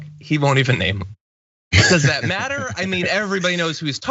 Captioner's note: laugh